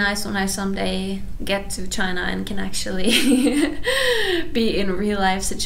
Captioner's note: laughs